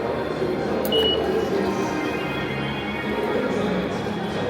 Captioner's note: sensor beeping